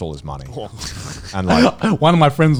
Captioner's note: laughing